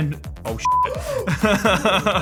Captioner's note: beep; laughs